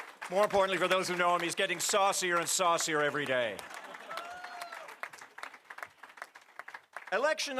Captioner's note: applause